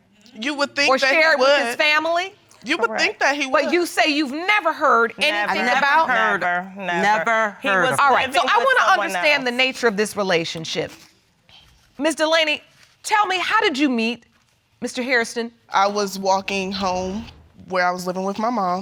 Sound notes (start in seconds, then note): none